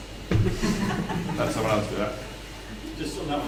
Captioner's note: laugh